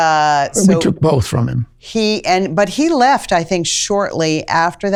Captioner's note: laugh